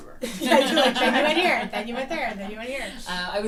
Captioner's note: laughter